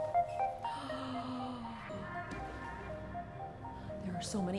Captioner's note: gentle upbeat music; gasping